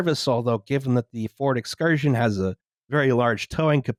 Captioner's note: none